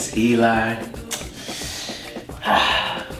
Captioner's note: sighing